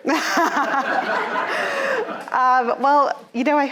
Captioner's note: audience laughing